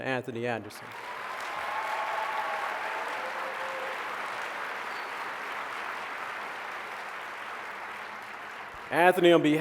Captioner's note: applause